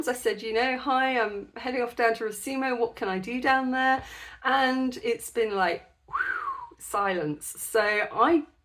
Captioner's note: whistle